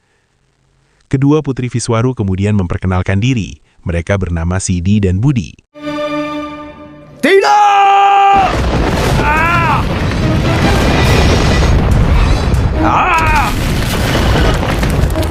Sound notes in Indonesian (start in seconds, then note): 7.2 berteriak